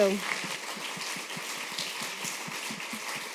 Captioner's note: applause